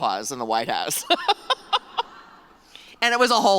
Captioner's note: laughter